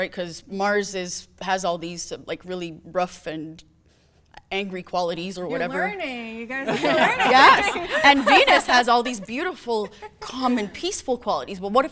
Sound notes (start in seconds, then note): 6.6 people laughing